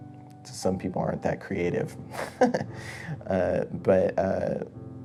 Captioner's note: laughs